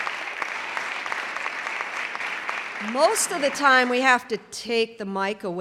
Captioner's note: clapping